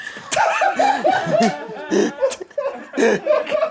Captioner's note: everyone laughs